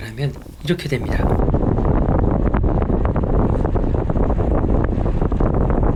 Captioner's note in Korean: 심한 바람 노이즈